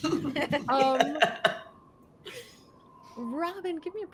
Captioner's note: characters laugh